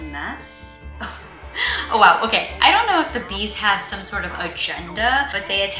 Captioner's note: cough